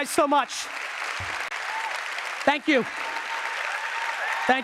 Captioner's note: applause